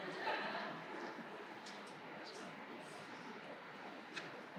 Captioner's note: distant laughter